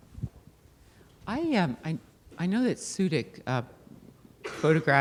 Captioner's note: voiceover